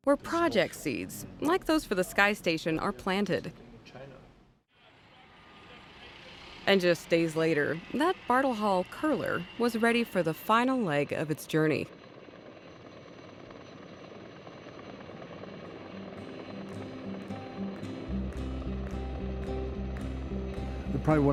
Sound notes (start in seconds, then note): 14.5 helicopter rotors whirring; 15.8 peaceful music